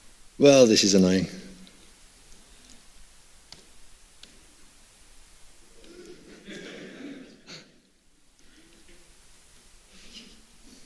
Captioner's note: laughter